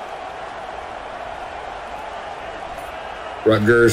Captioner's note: crowd cheering